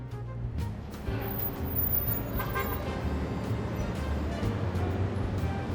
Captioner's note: car engine roaring